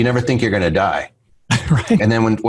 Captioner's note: laughs